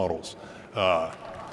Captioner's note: applause